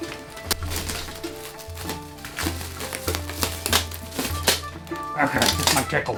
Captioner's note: plastic wrap unwrapping